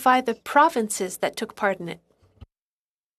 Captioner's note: speaking french